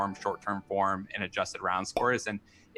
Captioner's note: popup chimes; popup pops